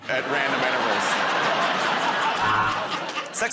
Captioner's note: laughter